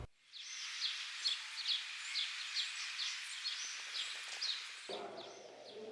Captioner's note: birds chirping